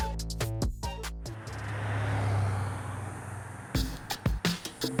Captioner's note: traffic sounds; upbeat Latin music